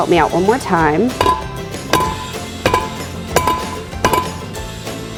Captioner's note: cake pan bangs on rack